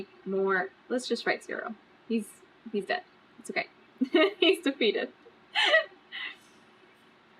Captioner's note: laughs